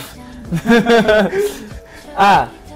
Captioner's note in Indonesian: tertawa